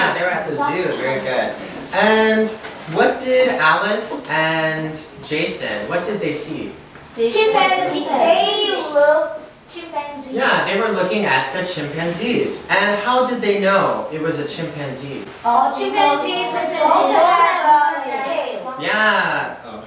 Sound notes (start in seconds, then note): 15.5 chattering